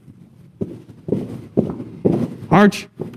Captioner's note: feet stomping